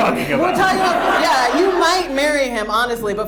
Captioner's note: audience laughs